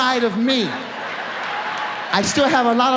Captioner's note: audience laughs